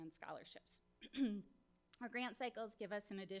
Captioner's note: clears throat